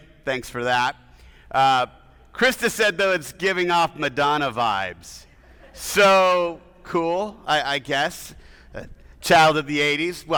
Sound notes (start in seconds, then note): 5.4 audience laughing